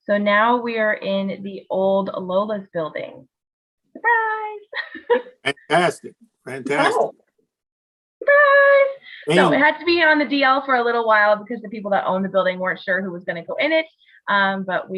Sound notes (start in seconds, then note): 4.7 laughs